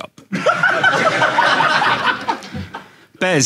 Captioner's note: audience laughing